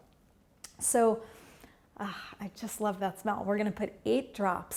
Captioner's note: breathing deeply